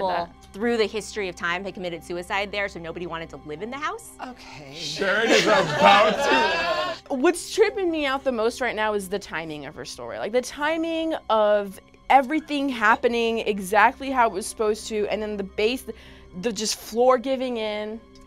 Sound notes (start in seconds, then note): 4.7 group laughs